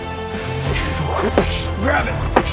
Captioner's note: psssch; pssht